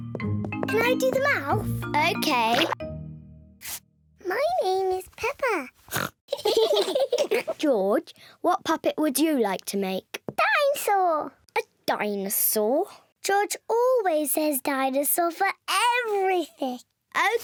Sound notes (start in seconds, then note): 5.9 oinks; 6.4 all laugh